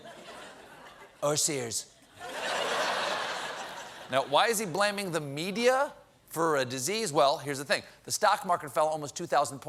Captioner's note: laughter